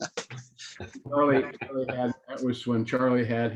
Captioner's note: laughter